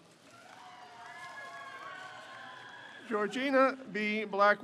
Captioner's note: crowd cheers